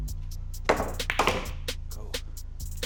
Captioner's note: pool stick connecting with ball, balls colliding